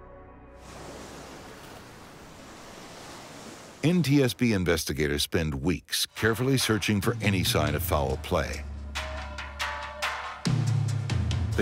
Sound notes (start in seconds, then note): 0.6 waves swishing; 9.5 dramatic rhythmic music